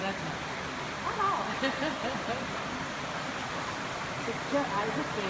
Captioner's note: water rushing; chatter